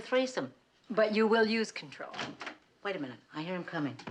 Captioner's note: kapı açılışı